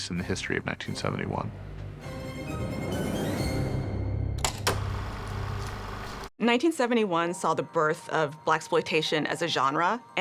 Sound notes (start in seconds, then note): 4.5 film reel spinning